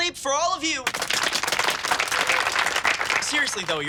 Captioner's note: clapping